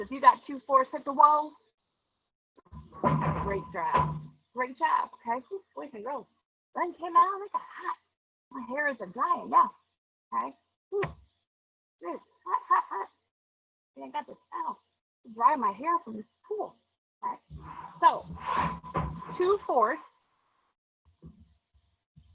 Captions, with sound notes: If you've got 2/4 hit the wall. Great job, great job. Okay, boys and girls. Sun came out as a hot. My hair is drying now, right? (laughs loudly) I ain't got a towel to dry my hair from this pool, right? So 2/4 of my shapes are quadrilateral.